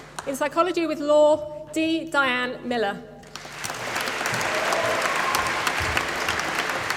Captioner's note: applause